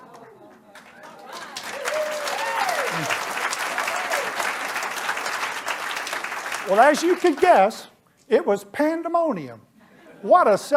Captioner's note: applause